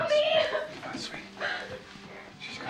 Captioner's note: sobbing